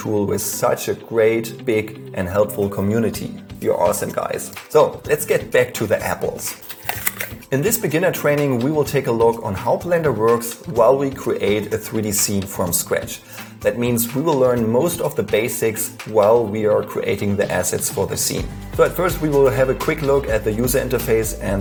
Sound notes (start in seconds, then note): 6.6 crunching